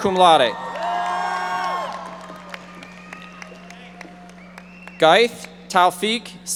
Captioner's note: audience members shouting